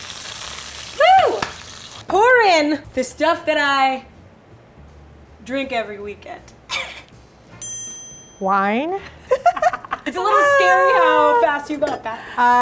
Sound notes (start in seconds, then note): 0.0 sizzling; 6.9 laughing; 7.6 ding; 9.1 laughing